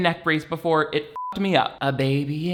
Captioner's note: beeps